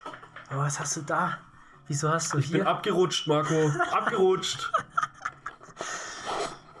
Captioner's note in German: gelächter